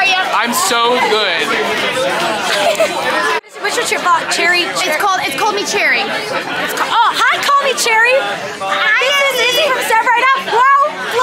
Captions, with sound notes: How are you? - I'm so good! What's your vlog, Cherry? - It's called, "Call Me Cherry." - It's... Oh hi, Call Me Cherry! (overlapping chatter) - This is Izzy from "Step Right Up!"